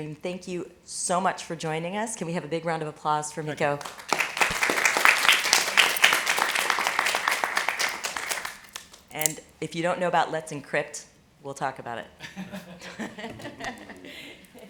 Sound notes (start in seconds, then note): 3.7 applause; 12.2 laughing